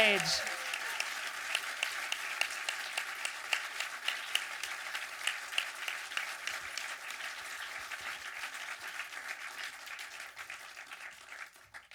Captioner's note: audience applause